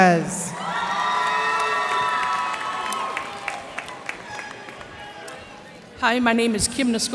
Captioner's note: cheers and applause